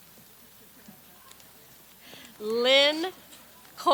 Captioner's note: people laugh